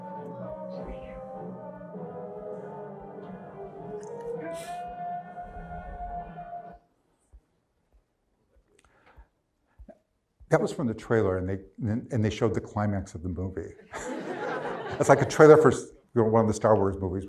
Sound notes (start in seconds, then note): 4.4 screams in terror